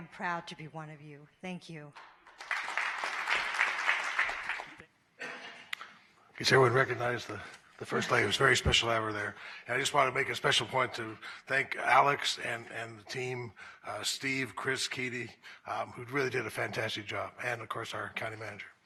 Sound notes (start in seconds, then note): 4.6 applause